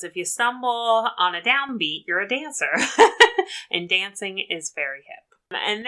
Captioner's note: laughs